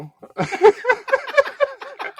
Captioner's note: both laughing